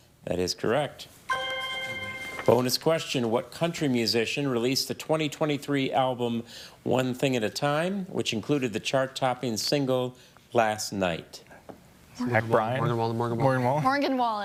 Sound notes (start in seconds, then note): 1.3 chime resonating